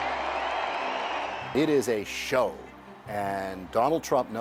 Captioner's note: applause